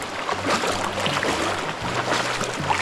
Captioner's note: water running